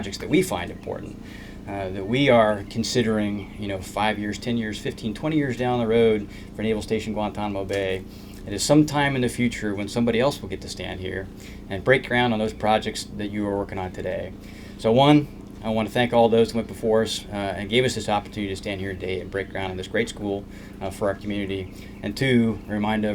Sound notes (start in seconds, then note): none